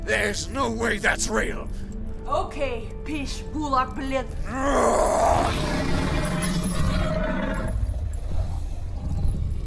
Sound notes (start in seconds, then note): 4.5 Brocheet growls; 4.5 Dweller roars